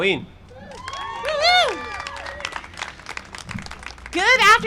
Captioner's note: cheering and applause